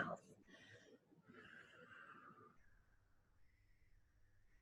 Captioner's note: lightly exhales